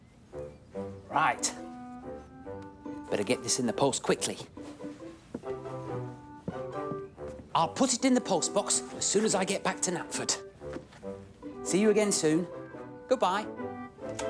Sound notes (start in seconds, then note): none